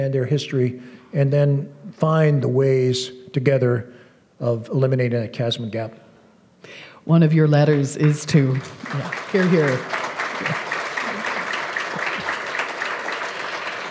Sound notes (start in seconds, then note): 7.7 applause